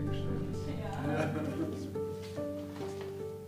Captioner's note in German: Fröhliches Lachen